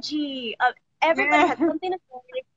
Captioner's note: laughs